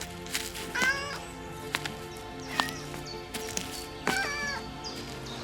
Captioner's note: cat meows